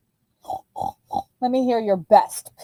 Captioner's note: oinking